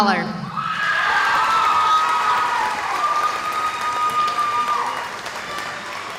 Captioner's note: cheering